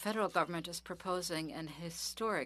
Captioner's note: speaking French